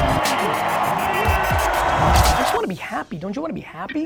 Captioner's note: crowd cheering